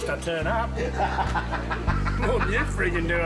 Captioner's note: man laughs